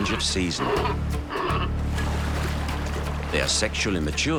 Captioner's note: sea lions grunting